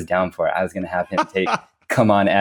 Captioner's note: laughs